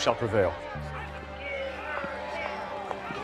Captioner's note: protesters chanting